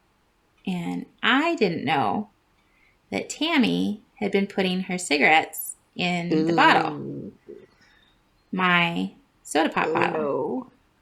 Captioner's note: gag